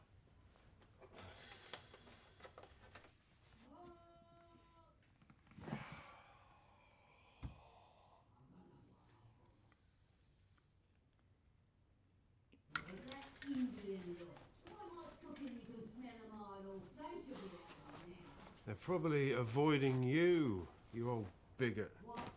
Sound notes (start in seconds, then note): 5.6 sighs